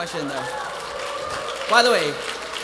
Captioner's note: attendees applauding and cheering